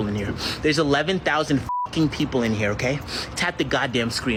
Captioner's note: beep